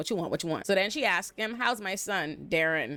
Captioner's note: none